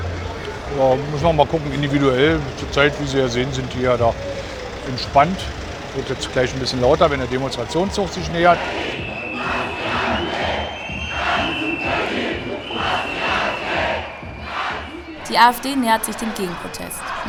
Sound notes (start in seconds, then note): 9.1 Sprechchöre: "Ganz Berlin hasst die AfD."